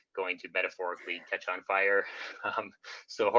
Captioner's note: laughing